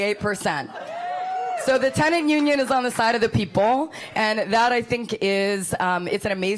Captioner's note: applause